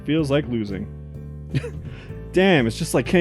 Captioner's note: chuckles